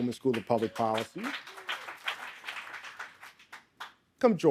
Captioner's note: audience applauding